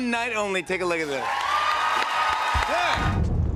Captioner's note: cheers and applause